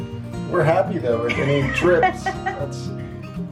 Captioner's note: laughs